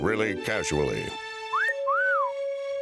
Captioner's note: whistling